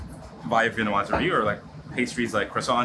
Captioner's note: speaks in foreign language